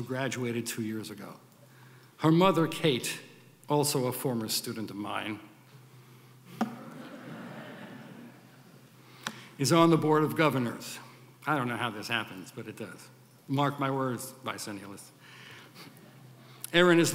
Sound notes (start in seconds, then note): 6.6 audience laughs